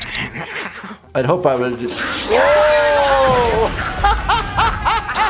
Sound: laughter

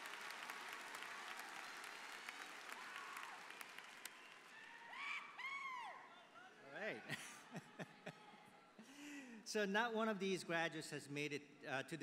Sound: applause

